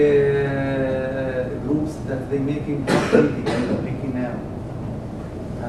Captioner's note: cough